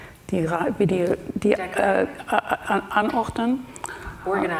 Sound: speaks German

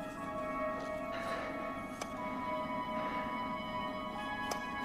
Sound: taps; taps

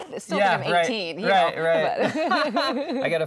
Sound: laughter

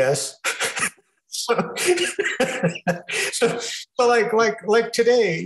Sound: laughing

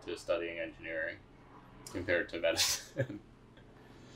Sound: laugh

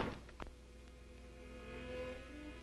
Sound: none

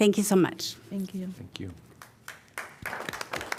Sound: applause

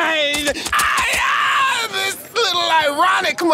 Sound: yelling

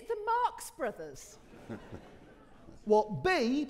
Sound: audience laughing

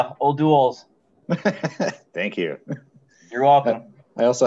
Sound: chuckles

